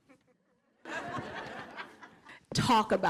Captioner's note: laughter